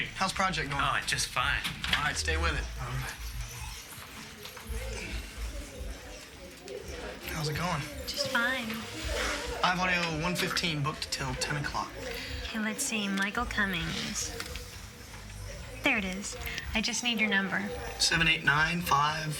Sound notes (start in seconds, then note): 5.2 people talking